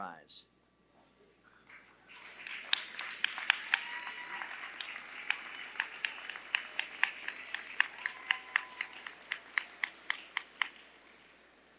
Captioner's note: applause